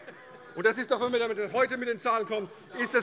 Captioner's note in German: Zurufe: Ui!